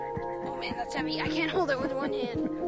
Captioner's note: laughs